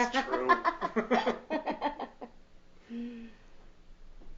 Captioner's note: laughing